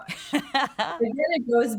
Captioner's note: laughs